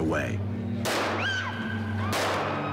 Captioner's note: gunshots; screams